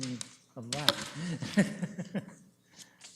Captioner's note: chuckles